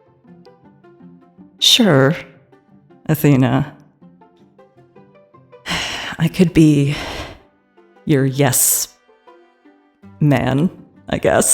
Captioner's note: sighs